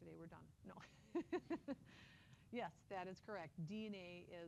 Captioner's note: laughs